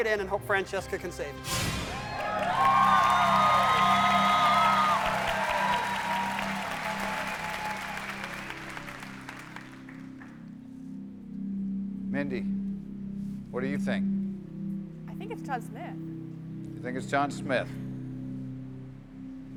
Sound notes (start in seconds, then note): 4.4 cheers and applause